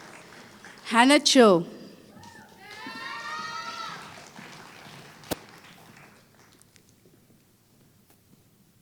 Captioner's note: applause